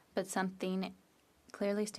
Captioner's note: speaking French